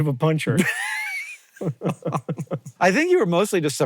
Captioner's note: BOTH chuckle